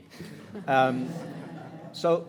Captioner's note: audience laughs